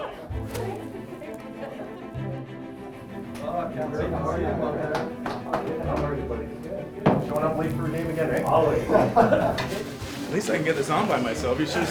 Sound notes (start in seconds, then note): 8.5 laughs